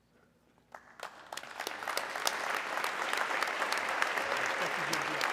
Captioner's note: audience clapping